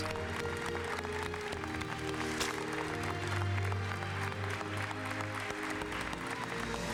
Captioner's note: applause; patriotic music